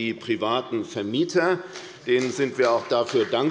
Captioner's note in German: Beifall bei der FDP